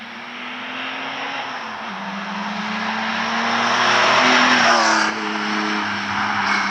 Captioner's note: engine roaring